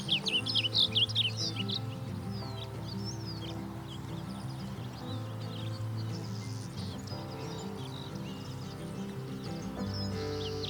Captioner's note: blue Grosbeak Singing!